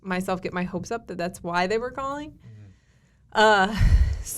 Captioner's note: exhales